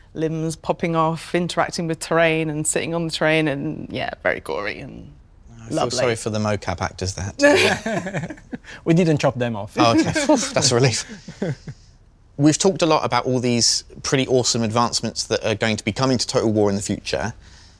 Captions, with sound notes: limbs popping off, interacting with terrain and sitting on the terrain and, yeah, very gory. I feel sorry for the MoCap actors then! [LAUGHS] We didn't chop them off. That's a relief! We've talked a lot about all these pretty awesome advancements that are going to be coming to Total War in the future.